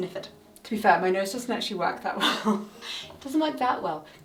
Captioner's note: chuckling